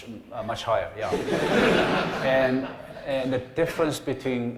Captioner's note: laughter